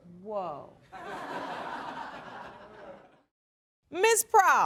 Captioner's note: audience laughing